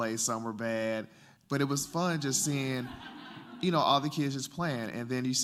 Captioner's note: laughter